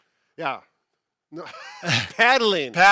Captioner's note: laughing